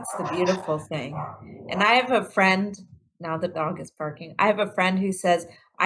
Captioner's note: now the dog is barking